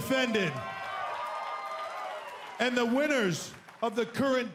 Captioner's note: cheers & applause